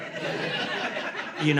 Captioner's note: laughter